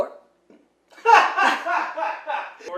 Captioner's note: man laughing